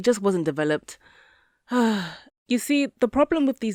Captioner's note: sigh